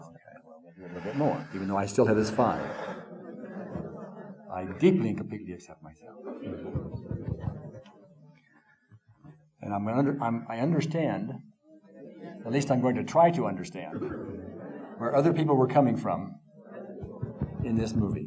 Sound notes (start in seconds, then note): 13.8 group voices murmuring